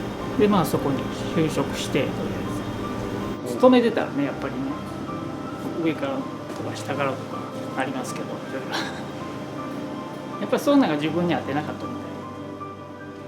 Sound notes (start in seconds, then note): 8.7 laughs